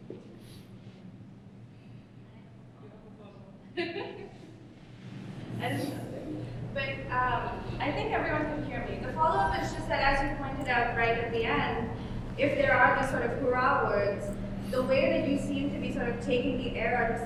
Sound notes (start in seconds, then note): 3.7 laughs